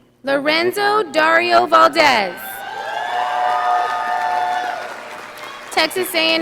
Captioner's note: audience applauding